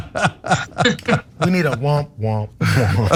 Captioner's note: laugh